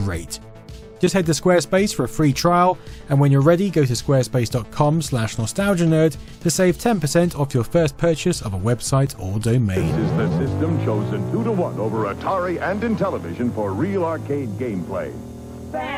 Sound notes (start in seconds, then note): 9.8 Vectrex sounds